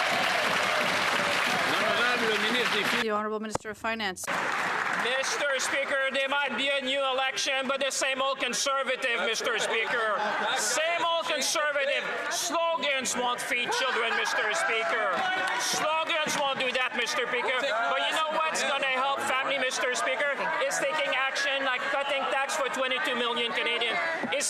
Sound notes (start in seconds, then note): 4.2 cheers & Applause